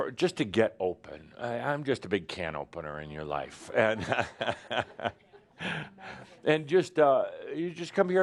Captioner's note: chuckles